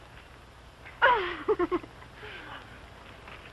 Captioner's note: giggles